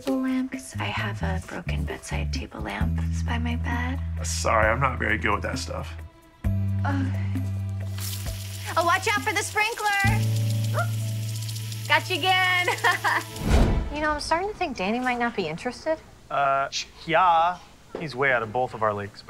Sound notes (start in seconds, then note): 7.8 sprinkler running; 12.6 laughs